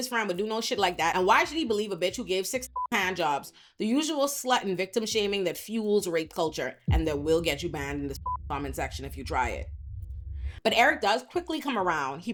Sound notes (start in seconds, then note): 2.7 beep; 7.7 beep